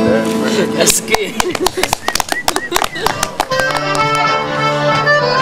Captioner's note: applause, cheering